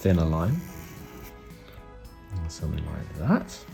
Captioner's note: pen drawing